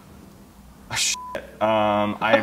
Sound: beep

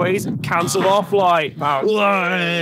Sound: buzzing sound effect plays

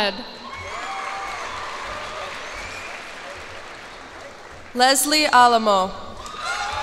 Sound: cheers and applause

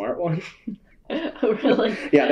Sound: laughter

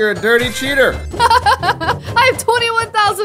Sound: laughs

